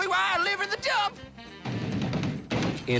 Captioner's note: tapping